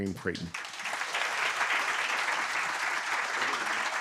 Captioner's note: audience clapping